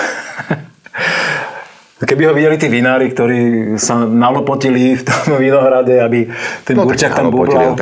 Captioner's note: laughs